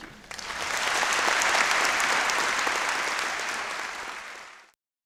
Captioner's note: audience applauds